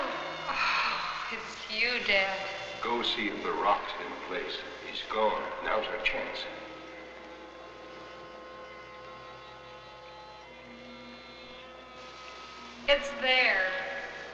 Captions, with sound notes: - Oh, it's you, Dad. - Go see if the rock's in place. He's gone. Now's our chance. (liquid bubbling) - It's there.